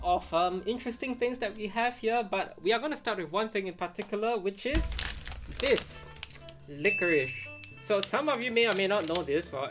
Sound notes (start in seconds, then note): 6.8 graphic chimes